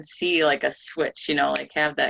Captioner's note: snaps finger